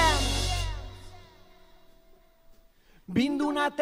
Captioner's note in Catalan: silenci